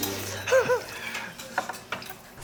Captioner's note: chuckles